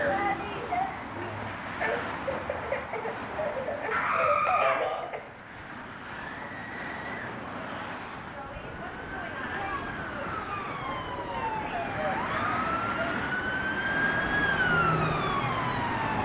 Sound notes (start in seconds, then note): 11.2 loud siren passing; 13.7 loud traffic sounds